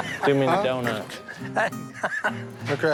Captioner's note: laughs